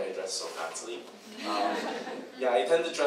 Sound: audience chuckles

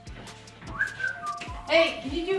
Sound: whistles

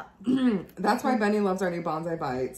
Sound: clears throat

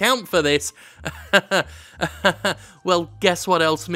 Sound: laughs sarcastically

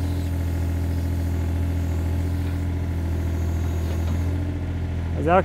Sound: excavator engine rumbling

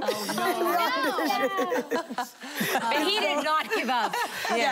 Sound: laughing

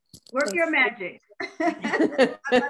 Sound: laughter

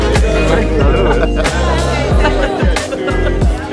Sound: laughter

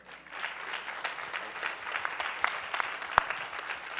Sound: applause

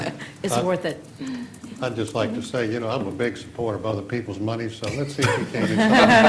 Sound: laughter

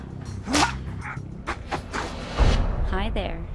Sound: man grunts

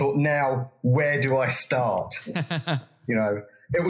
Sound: laugh

